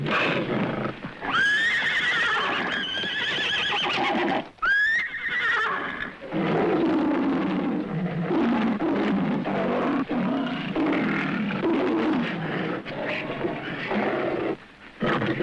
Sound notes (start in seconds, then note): 2.9 horse neighing; 6.2 lion roaring